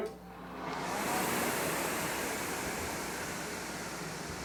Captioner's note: rowing machine whirring